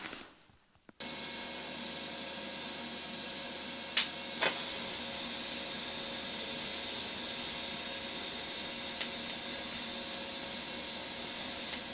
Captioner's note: welding noises